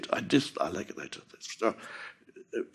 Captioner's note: Eckhart mormăind